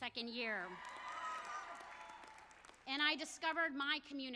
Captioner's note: audience applauds